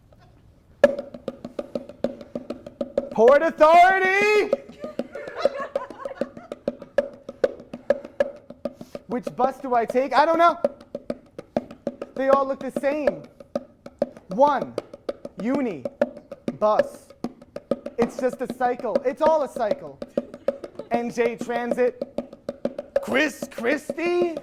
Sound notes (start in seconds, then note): 0.2 bongos; 4.7 giggling